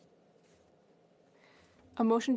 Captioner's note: speaking French